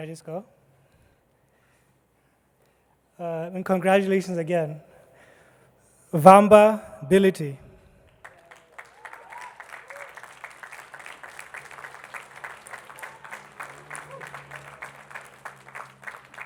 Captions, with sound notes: - Should I just go? Congratulations again. Vamba Bility. (attendees clapping)